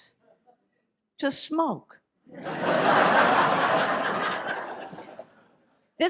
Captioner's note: audience laughs